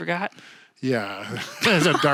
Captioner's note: laughing; chuckles